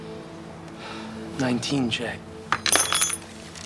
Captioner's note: sighs